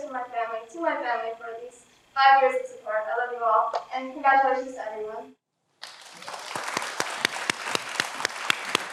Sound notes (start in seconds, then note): 5.8 everyone applauds